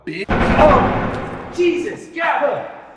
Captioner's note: gun firing